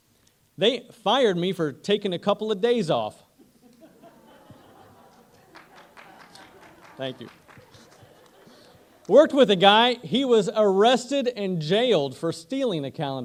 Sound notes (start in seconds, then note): 3.1 applause